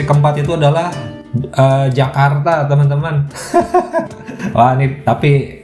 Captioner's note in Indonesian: tertawa